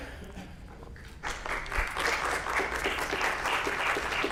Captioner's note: class applauds